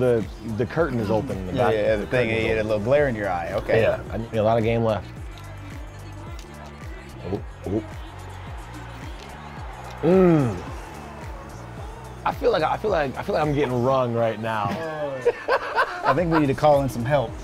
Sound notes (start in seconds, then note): 5.6 energetic music; 8.2 crowd cheering; 15.0 laughs